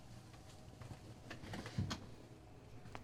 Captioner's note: none